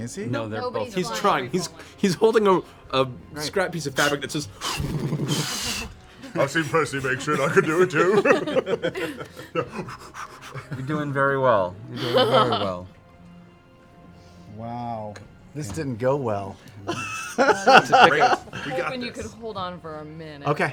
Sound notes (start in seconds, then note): 4.4 rustling fabric; 9.4 blows puffs of air